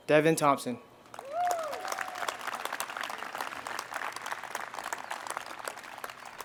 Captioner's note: audience applauds and cheers